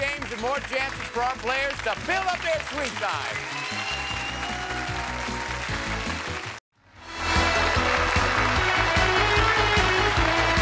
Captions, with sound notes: and more chances for our players to build up their sweep time! (cheering)